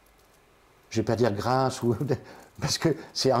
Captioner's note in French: rire